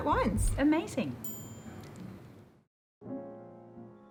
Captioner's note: chinking